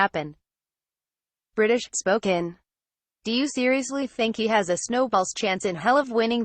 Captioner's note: british, spoken